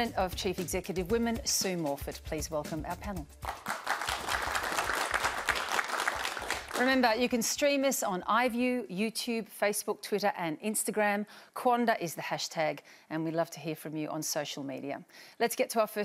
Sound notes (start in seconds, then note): 3.4 applause